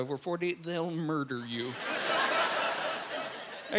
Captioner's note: laughing